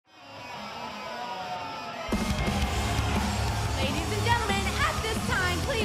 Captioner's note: crowd cheering